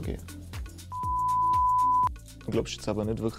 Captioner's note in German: Pfeifton